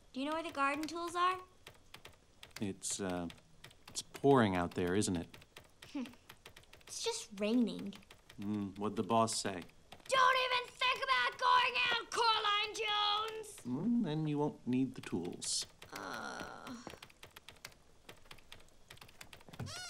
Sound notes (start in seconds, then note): 10.0 yelling; 19.5 door creaking